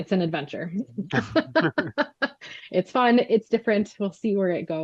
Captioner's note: laughs